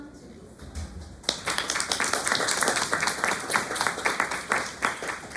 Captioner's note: applause